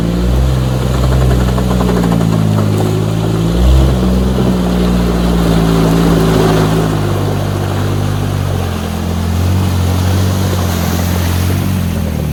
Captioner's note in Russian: Звук рёва мотора